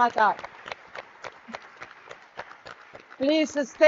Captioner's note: audience clapping